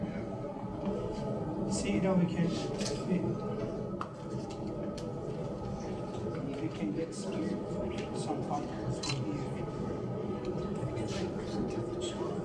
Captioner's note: speaking very quietly as working